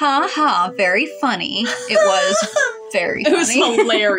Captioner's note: giggle; mocking